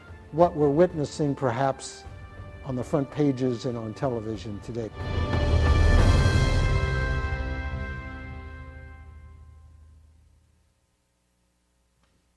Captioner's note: audience applauds